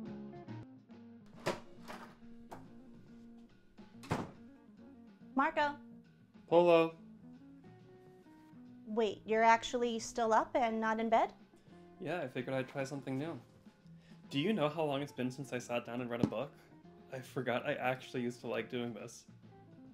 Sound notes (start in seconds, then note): 1.3 door opens and closes